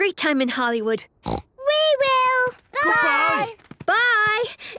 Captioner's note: snort